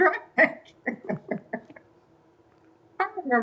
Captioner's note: laughter